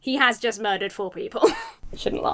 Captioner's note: chuckles